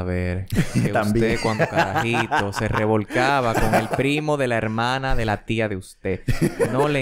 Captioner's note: laughs; laughs